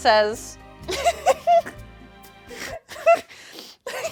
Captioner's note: laughing